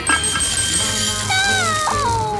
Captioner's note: beans scattering; glass tapping